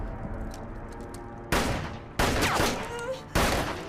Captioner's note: gun firing; Nikita whimpering